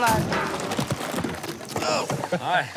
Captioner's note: chuckling